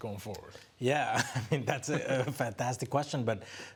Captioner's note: laughs